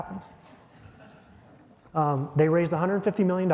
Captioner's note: audience chuckling